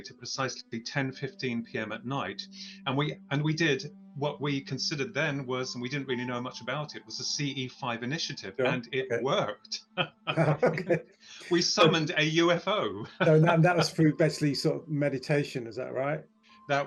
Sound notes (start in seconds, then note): 9.6 chuckles